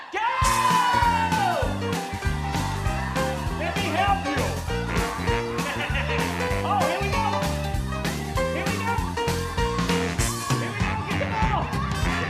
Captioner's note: cheering, music